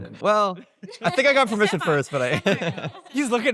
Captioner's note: laughs